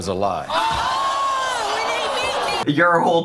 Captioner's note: people cheering